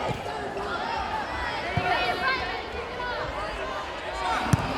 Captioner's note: players yelling